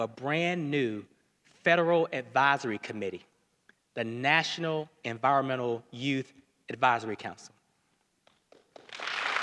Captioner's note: applause